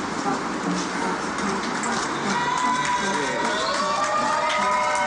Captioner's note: crowd cheering; cheering and applause